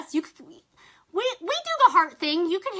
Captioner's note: stammers